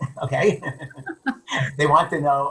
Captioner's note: laughs